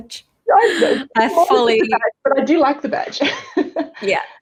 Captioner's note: laughs